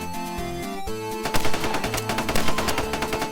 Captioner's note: gunshots